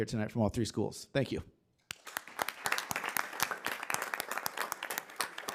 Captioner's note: attendees clapping